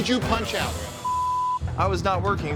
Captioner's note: beep